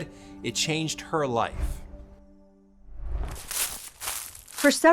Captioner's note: air whooshes